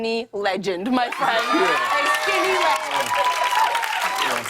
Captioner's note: cheers and applause